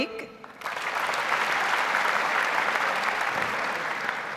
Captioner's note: audience applauds